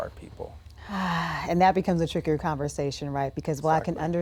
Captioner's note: exhales